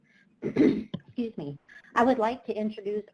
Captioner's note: clears throat